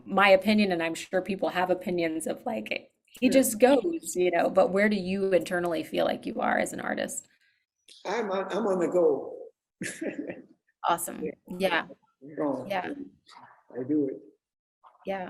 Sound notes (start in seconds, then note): 9.8 laughs